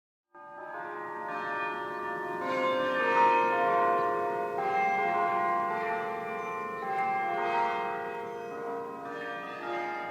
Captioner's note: bells Ringing